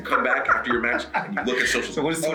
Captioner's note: laugh